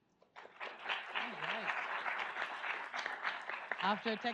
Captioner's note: audience applauds